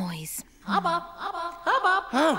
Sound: echoing

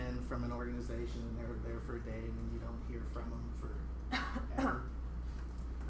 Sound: coughing

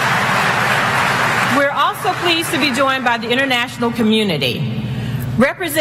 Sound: applause

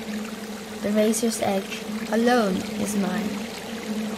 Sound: water flowing

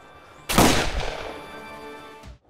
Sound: gunshot

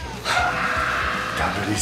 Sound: screams

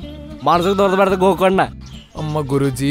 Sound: in cinematic phrases

